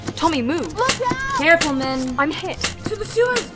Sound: shouting; crying out

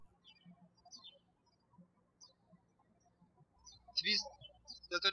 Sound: birds chirping

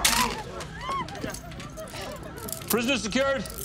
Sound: groaning; handcuffs clicking

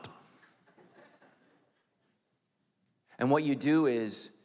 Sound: audience laughs

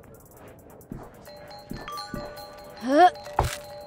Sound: drinks whooshing; footsteps thumping; bell ringing

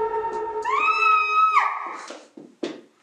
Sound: Mary screams

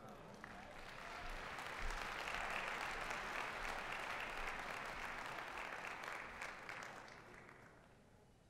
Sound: applause

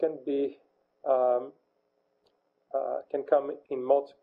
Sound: pause

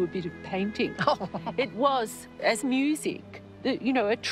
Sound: laughs

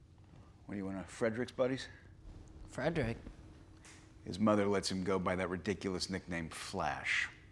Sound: none

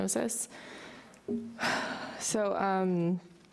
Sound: sighs

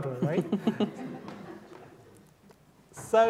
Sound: laughter

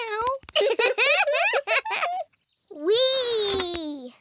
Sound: both giggle

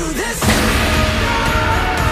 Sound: gong rings

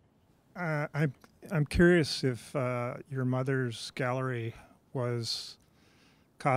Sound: voiceover

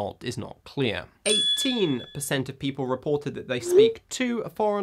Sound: bell rings

